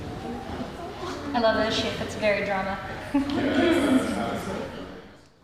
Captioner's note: people chattering